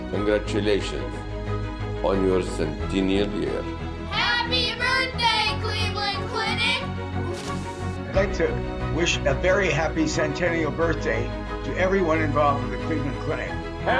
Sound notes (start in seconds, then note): 7.3 both blowing